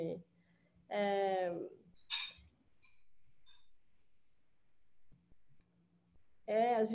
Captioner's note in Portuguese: silêncio